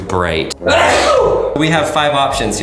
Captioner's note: sneezes